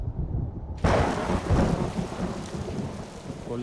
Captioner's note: thunder cracks